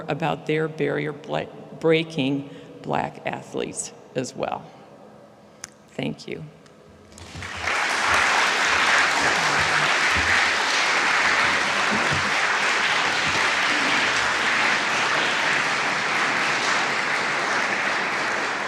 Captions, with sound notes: about their barrier-breaking black athletes as well. Thank you. (audience applauding)